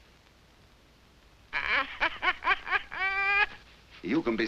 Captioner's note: parrot laughing